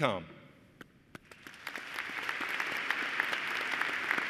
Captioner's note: applause